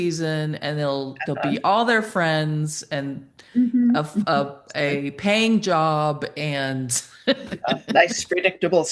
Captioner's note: chuckles